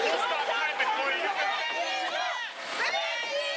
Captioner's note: screaming